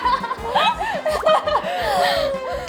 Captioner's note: laughing